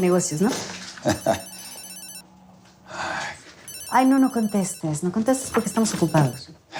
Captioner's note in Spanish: Suena el celular